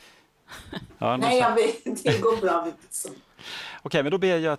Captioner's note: skratt